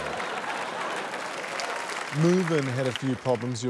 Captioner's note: chuckles; cheers, applause